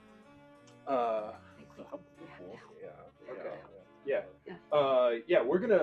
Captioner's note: CESAR and MONA whispering